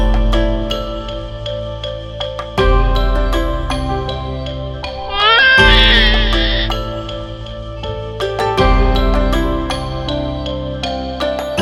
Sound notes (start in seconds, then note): 5.1 crying